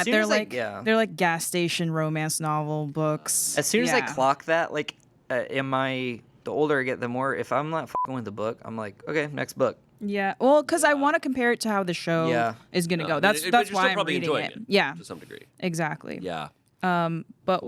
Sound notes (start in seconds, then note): 7.9 beep